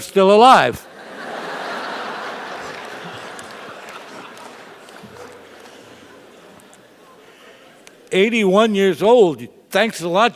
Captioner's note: laugh